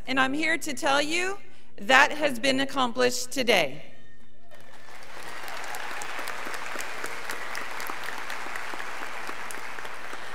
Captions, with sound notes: and I'm here to tell you that has been accomplished today. (students applauding)